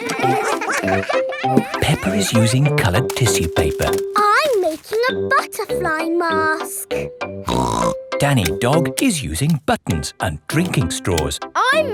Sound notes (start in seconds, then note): 0.0 all giggling; 7.5 snorts